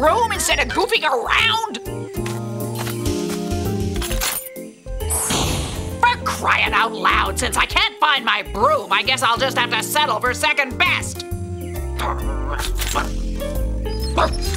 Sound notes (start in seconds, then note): 2.3 upbeat instrumental music; 4.2 bike clangs; 5.1 zapping; 12.0 owl grumbling